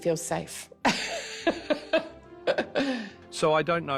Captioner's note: laughs